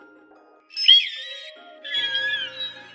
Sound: Couatling Squeaks

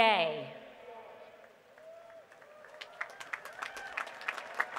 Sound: applause

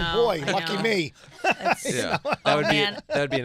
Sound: laughing

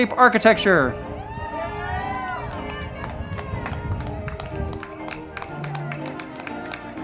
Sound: band music; crowd clapping and cheering

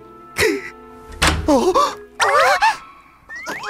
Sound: crying; door opening

